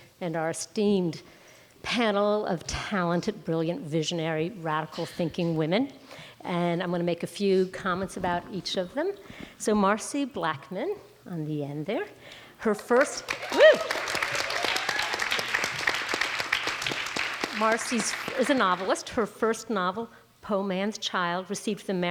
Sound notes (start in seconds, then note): 15.0 audience applauds